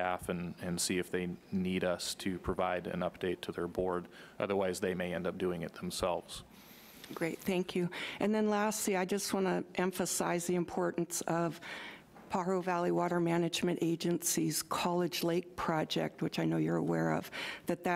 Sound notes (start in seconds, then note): none